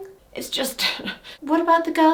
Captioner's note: chuckles